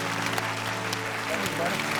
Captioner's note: cheers and applause